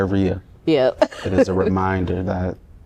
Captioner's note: laughter